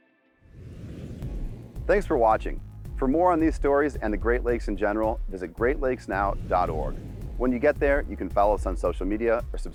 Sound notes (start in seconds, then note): 0.4 whooshing; 5.6 whooshing